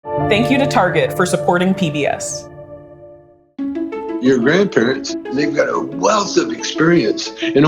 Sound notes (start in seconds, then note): 0.4 voiceover